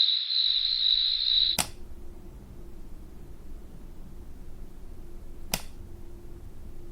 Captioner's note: insects chirping continues; light switch clicks